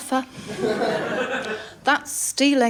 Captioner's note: laughter